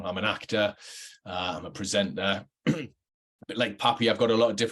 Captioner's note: clears throat